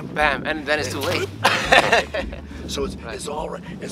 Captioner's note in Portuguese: Risos